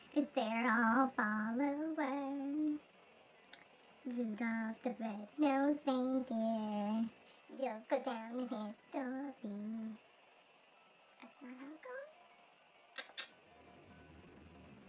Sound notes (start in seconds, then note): 11.2 whispers; 12.9 click click